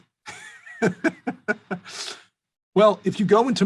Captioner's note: laughs